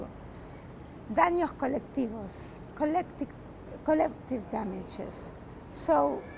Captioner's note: spanish